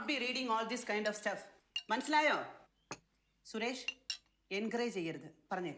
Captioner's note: speaking foreign language